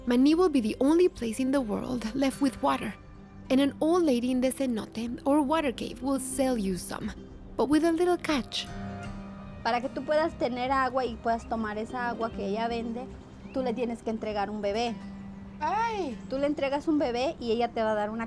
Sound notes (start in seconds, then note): 9.4 speaking Spanish